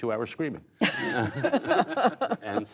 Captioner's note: laughter